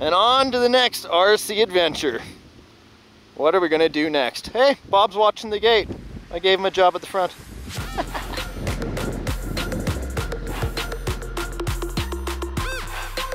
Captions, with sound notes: And onto the next RC adventure. What are we gonna do next? Hey, Bob's watching the gate. I gave him a job at the front. (laughter) (electronic music)